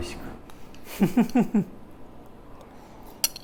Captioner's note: laughs